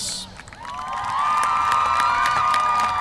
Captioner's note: applause